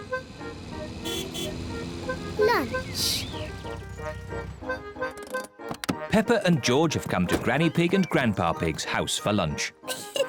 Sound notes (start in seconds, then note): 0.8 horn honks